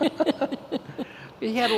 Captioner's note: laughing